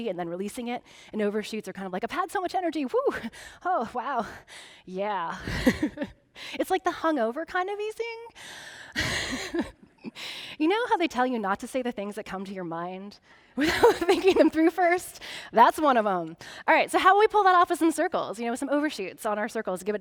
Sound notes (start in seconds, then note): 5.4 laughing; 13.6 chuckling